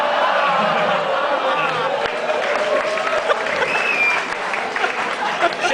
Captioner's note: crowd clapping